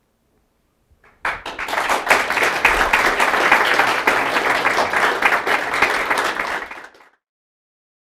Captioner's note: applause